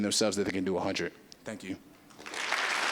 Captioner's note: applause